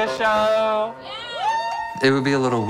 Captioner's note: crowd cheering